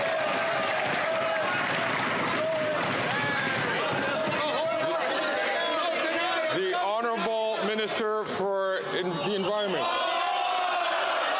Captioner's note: cheering and Applause